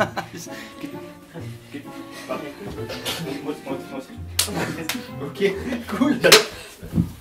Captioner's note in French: claque